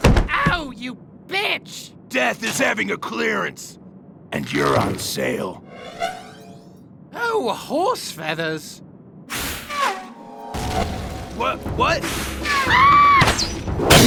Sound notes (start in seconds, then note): 12.5 shrieks femininely